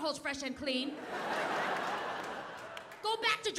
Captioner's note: audience laughing